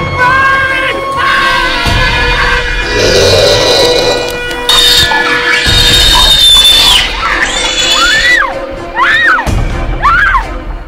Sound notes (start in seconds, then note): 2.2 screeching; 2.8 growling; 5.5 screeching; 8.0 screaming